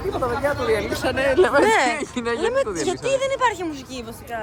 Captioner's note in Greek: γέλια